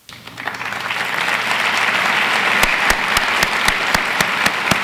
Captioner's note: audience applauds